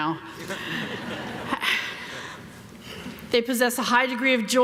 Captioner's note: everyone laughing